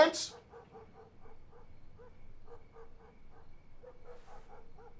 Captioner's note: dog barking in distance